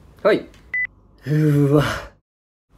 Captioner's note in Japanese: ため息交じり